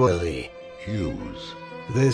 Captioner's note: evil demonic voice sound